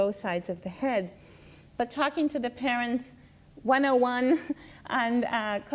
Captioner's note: laughs